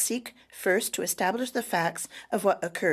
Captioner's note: speaking French